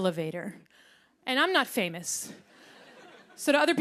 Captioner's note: laughter